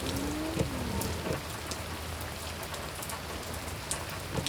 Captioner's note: windshield wipers whirring